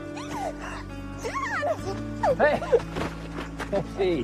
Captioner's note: sighs; squealing